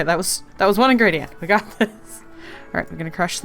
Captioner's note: laughs